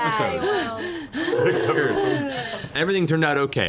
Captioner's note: exaggerated sounds of relief